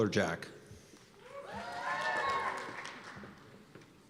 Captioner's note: cheers and applause